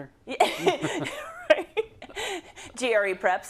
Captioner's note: laugh